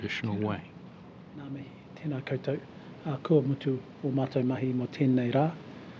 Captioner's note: speaks foreign language